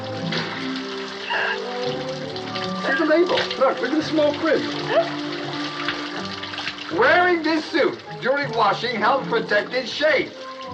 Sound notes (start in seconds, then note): 1.1 giggling